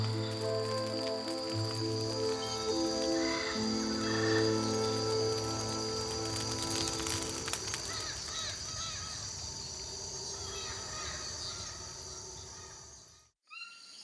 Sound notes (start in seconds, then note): 0.0 light instrumental music; 5.7 fire crackling; 9.2 animals vocalizing